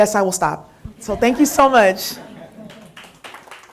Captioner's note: applause